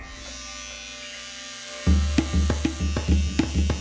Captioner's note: whirring